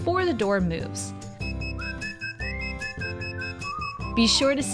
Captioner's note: device beeping